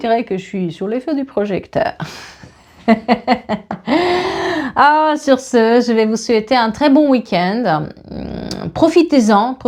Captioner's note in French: rires